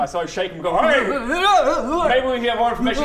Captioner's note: shook up old man noises